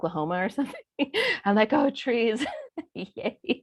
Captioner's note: chuckles